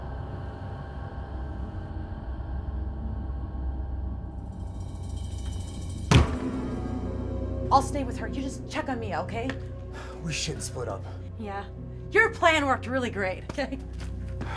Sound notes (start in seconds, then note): 6.1 door banging